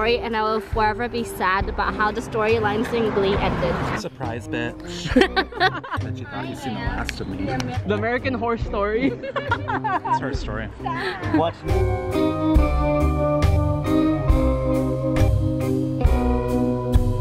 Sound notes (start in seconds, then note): 5.0 laughs; 9.0 laughing; 10.9 spooky music